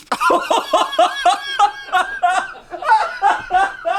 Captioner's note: laughs